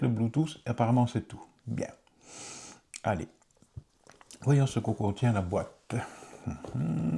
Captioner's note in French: grognement